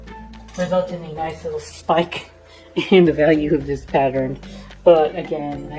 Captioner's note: chuckling